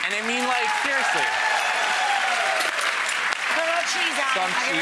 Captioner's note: cheering and applause